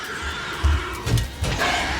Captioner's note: alien screeching; footsteps thumping; tense dramatic music